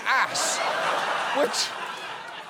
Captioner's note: audience laughing